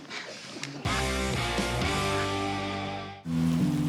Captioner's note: chuckling